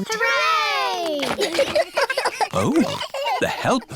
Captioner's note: giggles